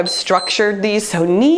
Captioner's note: timer beeps